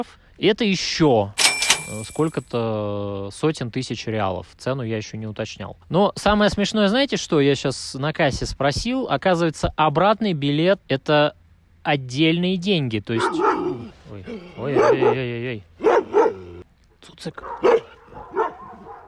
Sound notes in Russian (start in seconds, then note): 13.1 лай собаки; 17.4 лай собаки